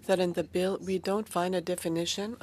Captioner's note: speaking French